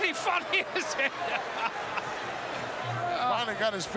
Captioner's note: laughing